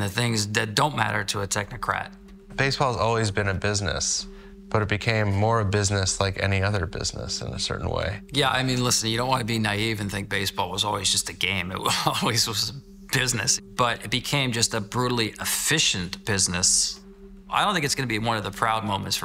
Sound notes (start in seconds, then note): 11.8 chuckles